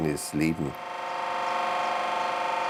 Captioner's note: machine whirring